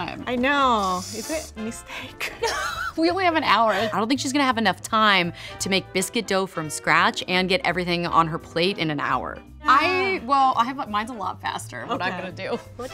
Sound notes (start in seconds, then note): 2.2 laughs